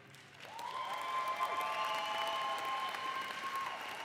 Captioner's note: audience cheers